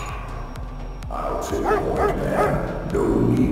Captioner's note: woof woof woof